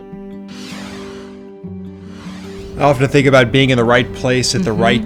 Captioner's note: logo whooshing